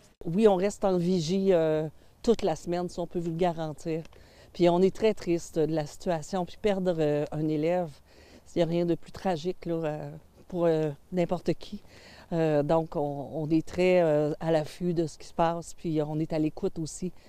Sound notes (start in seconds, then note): 4.6 speaking french